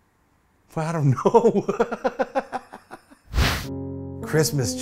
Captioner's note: laughs